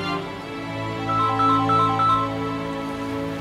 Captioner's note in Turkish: Telefon çalıyor